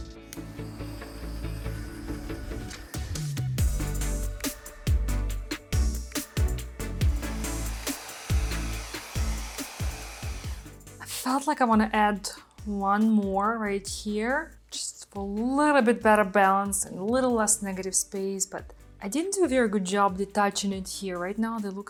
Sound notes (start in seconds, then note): 0.2 bright music; 1.6 blower hissing; 3.5 bright music; 7.6 blower hissing